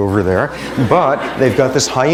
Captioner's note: laughter